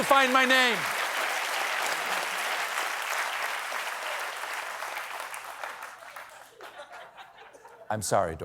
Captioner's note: applause; laughter